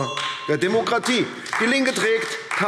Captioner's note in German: Beifall AfD - Unruhe - Glockenzeichen